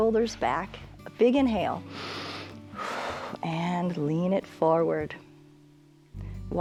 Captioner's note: inhales and exhales